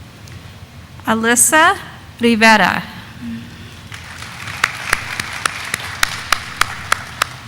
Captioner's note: audience applauding